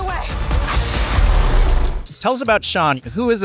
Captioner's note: explosion